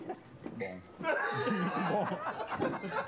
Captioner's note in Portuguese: todos rindo